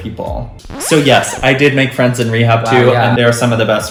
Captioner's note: record scratch sound